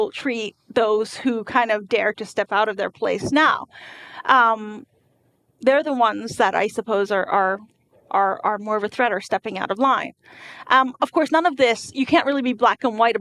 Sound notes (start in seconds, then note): none